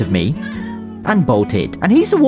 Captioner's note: Ralph meows